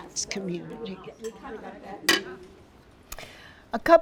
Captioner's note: chatter